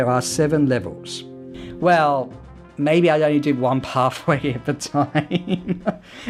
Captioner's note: chuckles